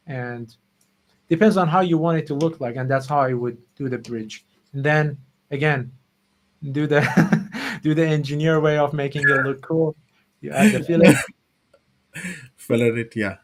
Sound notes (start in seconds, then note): 7.2 laughs; 12.1 laughs